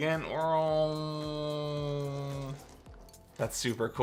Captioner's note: vrooms